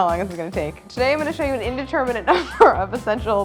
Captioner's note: laughs